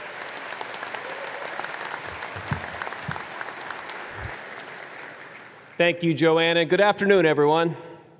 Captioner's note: applause